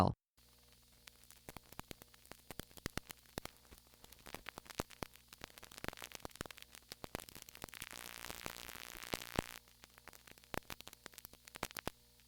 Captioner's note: clicks and crackling